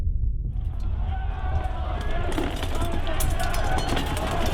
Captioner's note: people clamoring